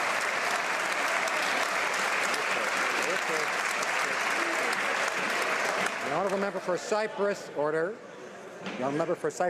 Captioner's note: some Applause